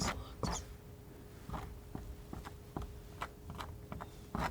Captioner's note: scratching